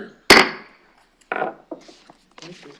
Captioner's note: gavel striking bench